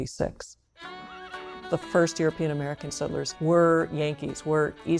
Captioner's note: horse neighs, fiddle music